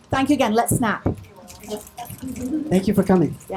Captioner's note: audience snapping